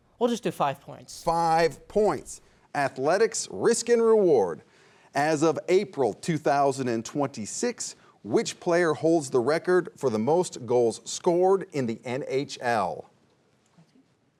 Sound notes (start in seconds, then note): none